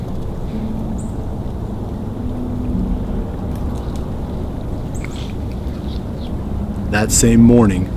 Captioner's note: distant road noise; road noise, music starts